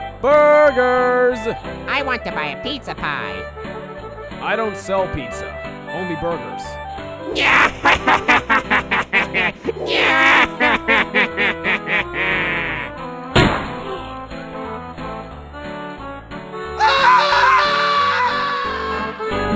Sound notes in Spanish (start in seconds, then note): 7.3 risa psicópata; 16.8 grito